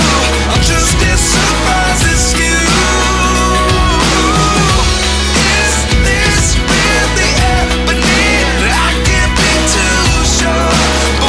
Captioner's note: laughs